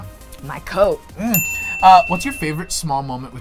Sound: ding

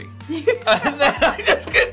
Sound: both laughing

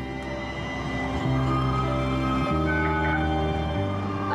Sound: trolley klaxon

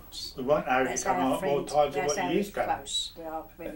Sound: chattering

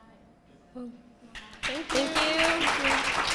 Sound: applause

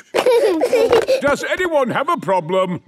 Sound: giggling

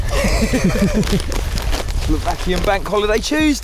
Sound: laughing

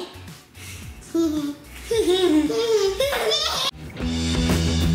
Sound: laughing; upbeat rock music

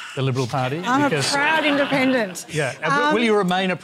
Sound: laughter

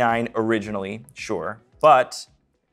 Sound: none

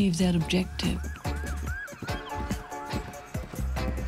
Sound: sirens wailing

